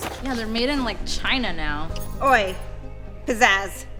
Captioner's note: none